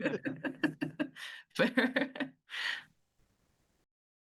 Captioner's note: laughing